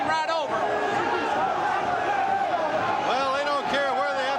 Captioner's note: crowd chatter